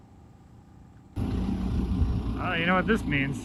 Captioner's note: motor humming